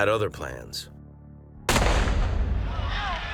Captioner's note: gunshot; screaming